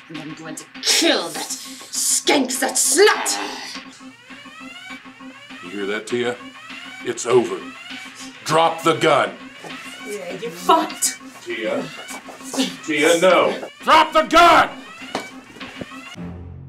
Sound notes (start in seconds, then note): 3.4 alarm resounding